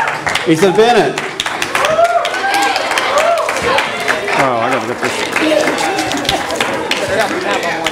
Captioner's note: audience applause